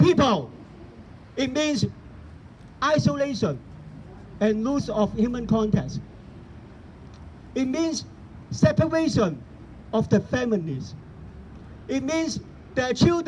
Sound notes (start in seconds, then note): none